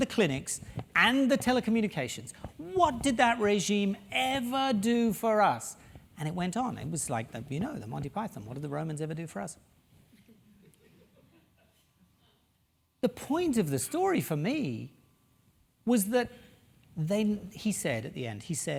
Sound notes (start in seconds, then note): 10.2 laugh